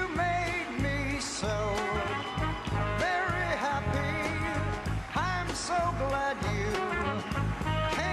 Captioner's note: applause